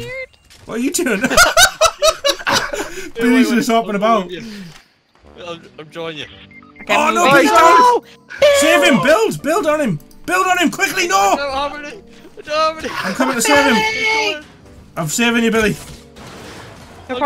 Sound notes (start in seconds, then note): 1.2 laughs; 12.3 cries